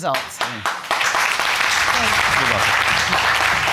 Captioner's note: audience clapping